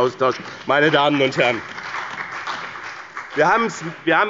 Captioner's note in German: Beifall bei dem BÜNDNIS 90/DIE GRÜNEN und der CDU